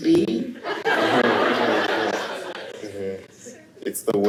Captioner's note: laughter